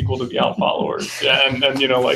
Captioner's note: chuckling